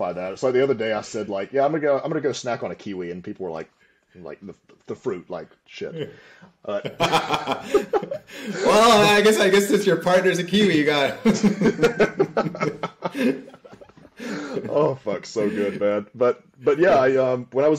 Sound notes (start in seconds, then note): 11.1 laughter